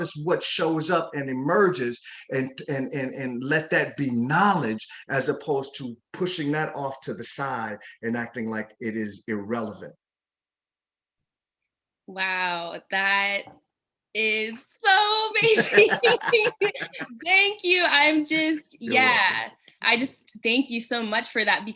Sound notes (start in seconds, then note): 15.4 both laughing